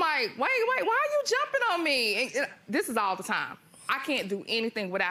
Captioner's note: none